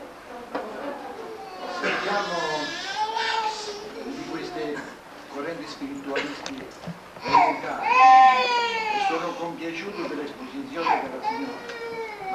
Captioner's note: italian